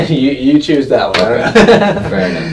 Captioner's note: men laughing